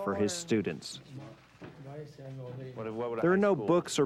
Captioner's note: men speaking in foreign language